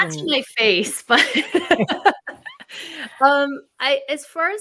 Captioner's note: speakers laughing